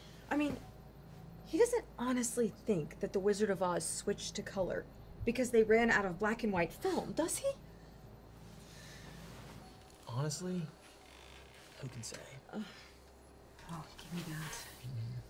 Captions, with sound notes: - I mean, he doesn't honestly think that "The Wizard of Oz" switched to color because they ran out of black and white film. Does he? - Honestly, who can say. (June grunts) - Oh. Gimme that.